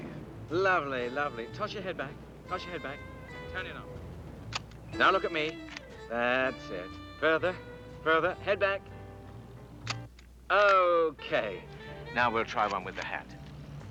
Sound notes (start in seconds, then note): 4.0 shutter clicking; 9.8 shutter clicks